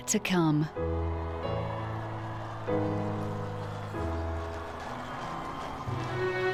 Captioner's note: gentle music; crowd cheering; serene music